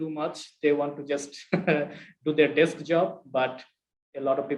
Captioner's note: chuckles